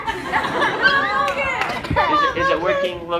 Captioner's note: laughter